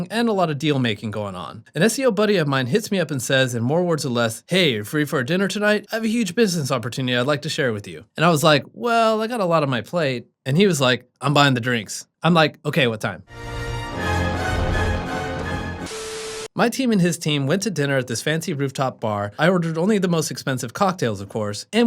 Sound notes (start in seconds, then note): 13.3 regal music; 15.9 static crackling